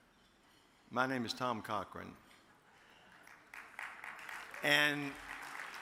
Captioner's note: audience claps